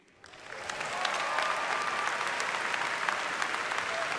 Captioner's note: applause